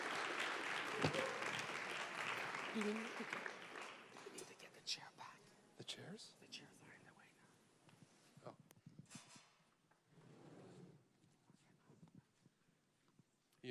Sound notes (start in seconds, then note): 0.0 applause; 4.7 whispering